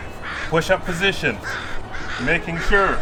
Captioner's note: crows squawking